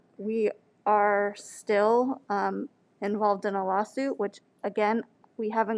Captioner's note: none